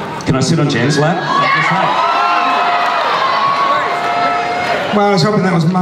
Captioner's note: audience cheers